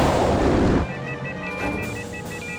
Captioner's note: instruments beeping